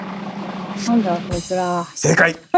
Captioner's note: drumroll; laughs